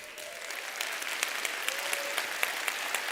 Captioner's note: applause